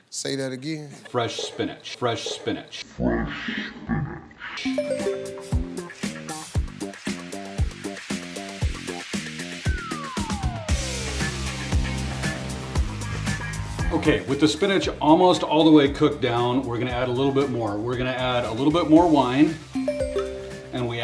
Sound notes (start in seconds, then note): 4.6 graphic twinkling; 6.2 upbeat music; 19.8 graphic twinkling